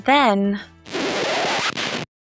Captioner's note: record scratch